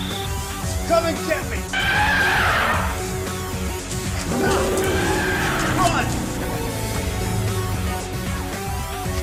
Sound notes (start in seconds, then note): 1.7 angry trumpet; 4.1 roar